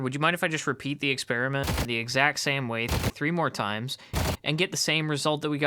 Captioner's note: gunshots